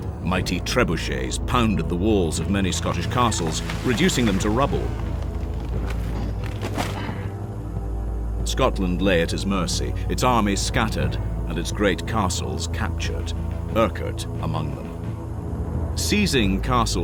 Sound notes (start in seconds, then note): 5.1 sounds of siege engines